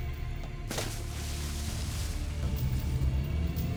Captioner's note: water splashing